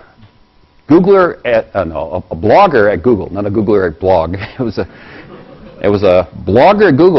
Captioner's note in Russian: Смеется